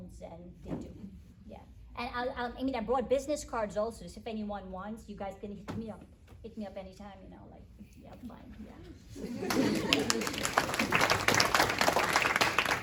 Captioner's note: attendees clap and laugh